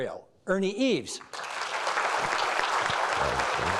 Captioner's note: applauding